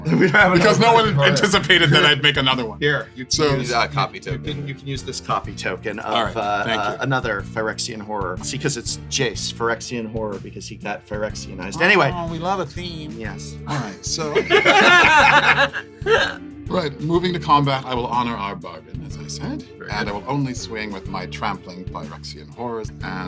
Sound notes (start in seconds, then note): 11.7 nasal voice; 14.3 laughs